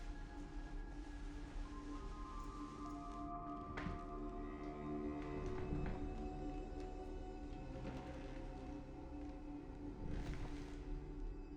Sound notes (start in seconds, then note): 1.0 eerie tranquil music continues; 5.2 rocking chair creaking